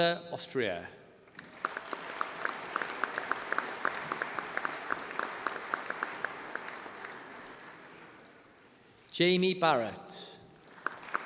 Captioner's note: applause